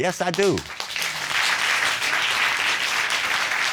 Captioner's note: audience applauding